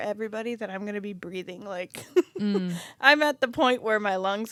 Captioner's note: laughs